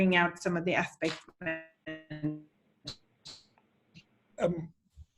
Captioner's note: audio warbles